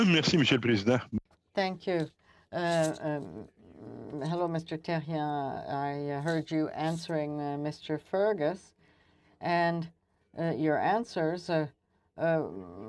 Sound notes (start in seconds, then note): 7.9 speaking french